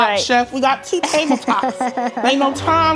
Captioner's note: laughing